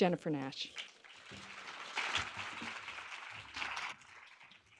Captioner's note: applause